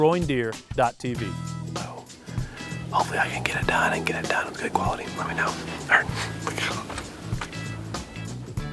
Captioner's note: whispering